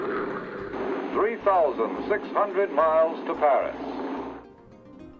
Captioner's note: man On Radio